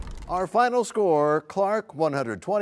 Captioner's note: crashing sound